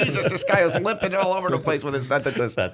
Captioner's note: laughter